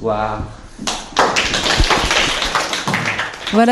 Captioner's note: applause